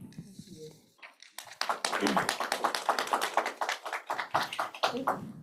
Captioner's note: applause